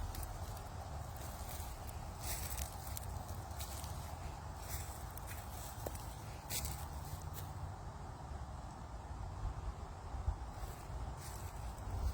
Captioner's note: footsteps crunching through dry leaves